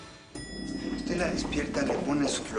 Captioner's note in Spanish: Timbre del elevador